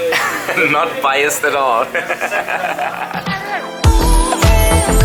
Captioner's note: laughs